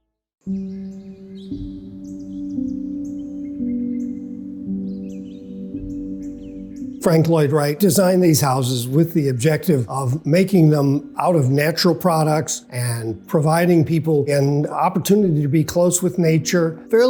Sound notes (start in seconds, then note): 0.6 birds chirping; 0.6 soft music